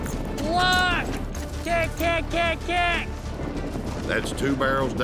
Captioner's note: yelling